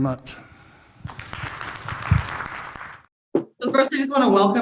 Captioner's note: audience clapping